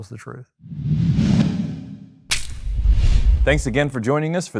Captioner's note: air whooshing